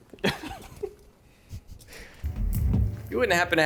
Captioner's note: pair laughs